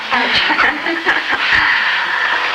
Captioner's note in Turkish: Gülüşmeler